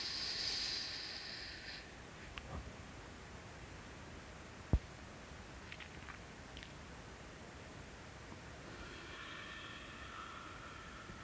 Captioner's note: breathing